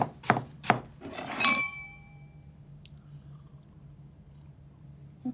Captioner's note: glasses clink